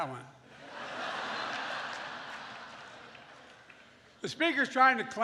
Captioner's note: laughter